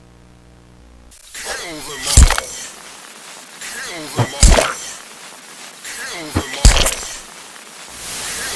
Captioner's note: heavy wet cleaving